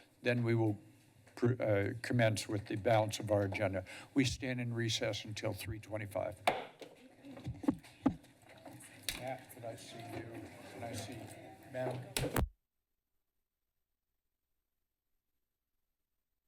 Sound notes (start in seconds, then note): 7.4 pounds gavel; 13.0 silence